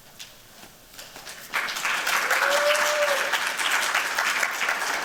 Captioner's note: applause, cheers